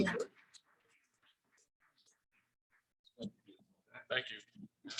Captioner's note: audience clapping